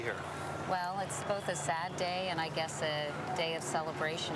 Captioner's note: none